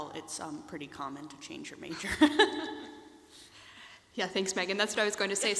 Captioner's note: laughs